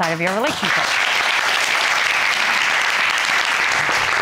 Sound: audience applauding

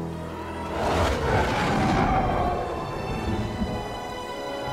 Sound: TIE fighters screech overhead

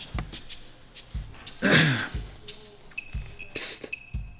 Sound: clears throat

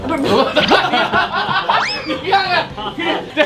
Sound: laughing and stamping the feet; laughing

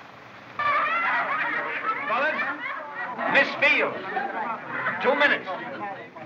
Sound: chattering

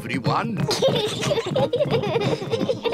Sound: peppa and george giggling

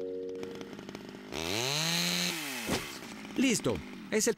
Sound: chain Saw Revving

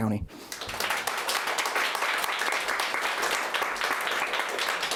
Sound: audience applauding

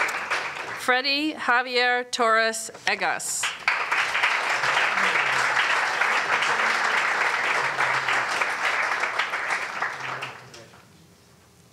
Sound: applause; applause

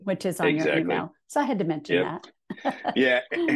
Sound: chuckling

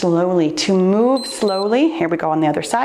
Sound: timer beeps

